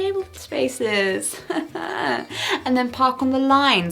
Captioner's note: strained laughing